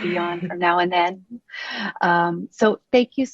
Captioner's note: laughing